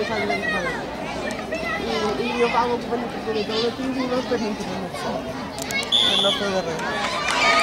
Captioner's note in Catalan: La gent anima; Xiulet